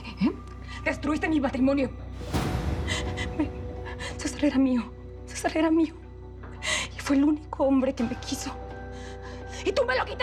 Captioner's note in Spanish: sollozos